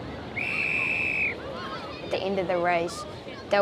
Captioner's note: whistle blows